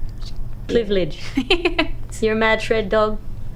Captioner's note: laughs